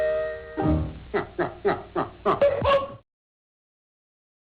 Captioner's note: laughs